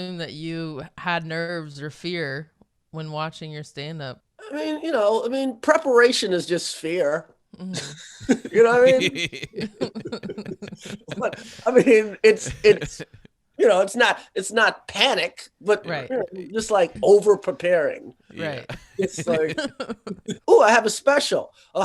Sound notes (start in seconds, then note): 7.7 chuckling; 9.3 laughing